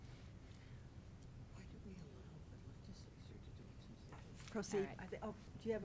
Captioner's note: whispering